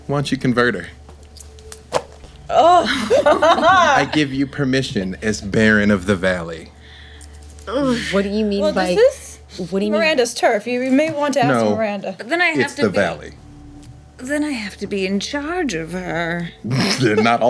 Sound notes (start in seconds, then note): 2.5 laughing